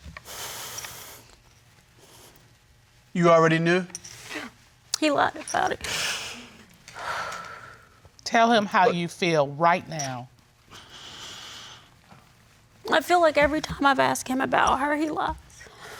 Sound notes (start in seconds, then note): 0.1 breathing heavily; 6.9 exhales